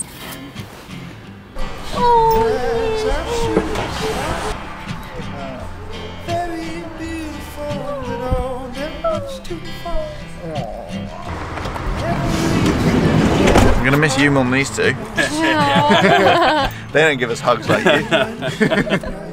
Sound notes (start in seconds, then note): 14.8 laughs; 18.8 laughs